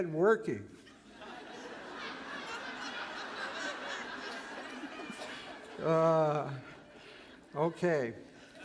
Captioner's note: laughter